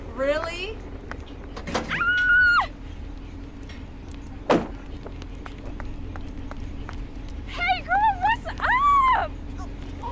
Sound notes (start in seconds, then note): 1.9 screams